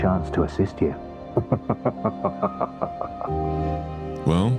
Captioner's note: Solaire Laughs